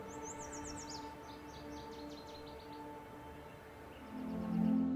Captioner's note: birds chirp